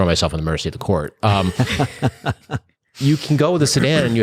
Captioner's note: laughter